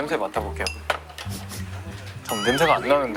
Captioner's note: sniffing